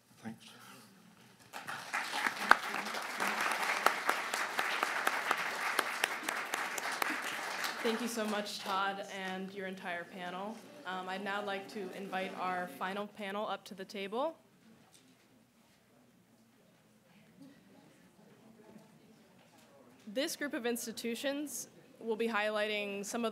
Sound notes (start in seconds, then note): 1.4 applause